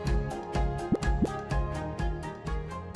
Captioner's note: graphic pops